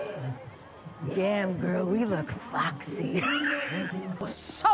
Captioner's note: gasp-laugh